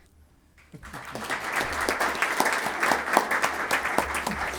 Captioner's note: attendees applauding